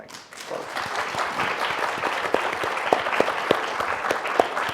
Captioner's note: audience applause